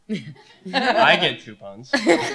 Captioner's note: laughter